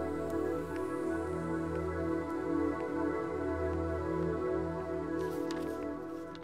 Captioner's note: Footsteps